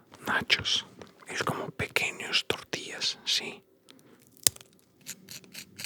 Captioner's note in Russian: говорит на испанском